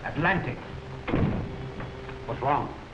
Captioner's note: door thuds closed